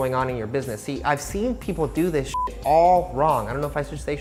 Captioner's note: beep